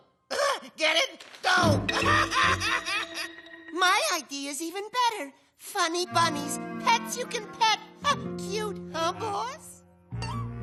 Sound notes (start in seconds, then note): 1.9 laughs